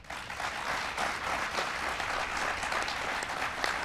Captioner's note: applause